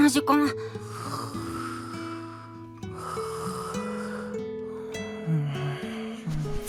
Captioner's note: snore